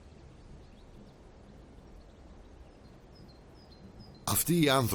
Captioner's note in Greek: πουλιά που κελαηδούν